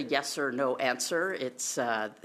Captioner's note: speaking French